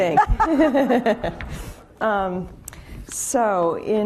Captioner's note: laughing